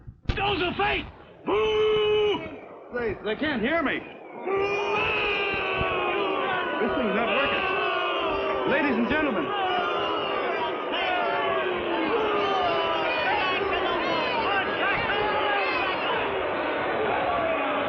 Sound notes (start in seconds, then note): 5.5 yelling; 10.9 booing; 10.9 yelling